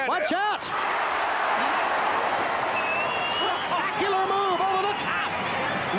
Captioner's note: applause